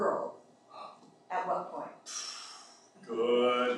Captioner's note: sighs